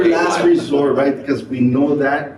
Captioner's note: people laugh